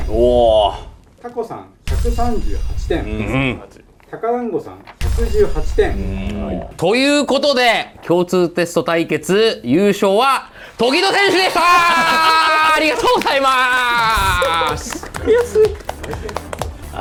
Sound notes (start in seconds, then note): 11.0 laugh